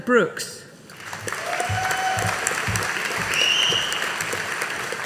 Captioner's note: audience applauding